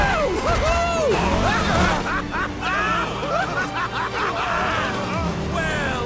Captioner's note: crazy laughing continues